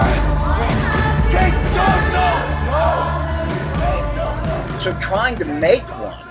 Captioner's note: pleading